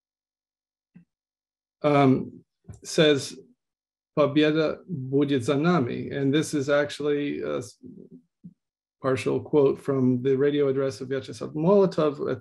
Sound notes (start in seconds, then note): 3.8 speaking in Russian